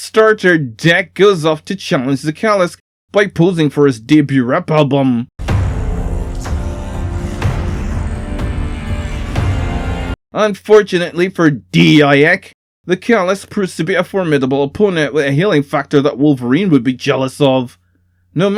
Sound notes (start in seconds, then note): 5.4 explosion behind him